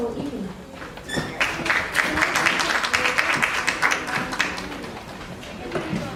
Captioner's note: applause